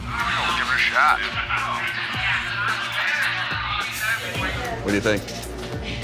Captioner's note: chatter